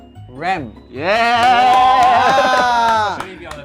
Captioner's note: all cheering